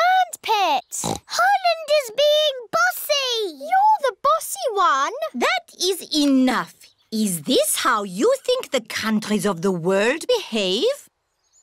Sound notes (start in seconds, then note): 0.0 bleats; 1.0 oinks